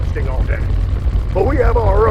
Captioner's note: truck rumbling